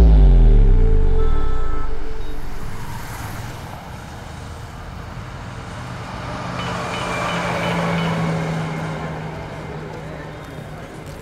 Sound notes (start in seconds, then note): 6.4 Car sounds; 6.4 Phone ringing